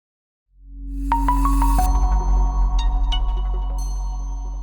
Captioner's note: bright chiming